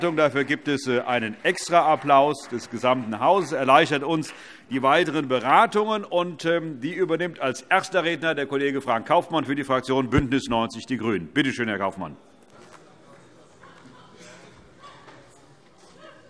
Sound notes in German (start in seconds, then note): 2.5 Vereinzelter Beifall SPD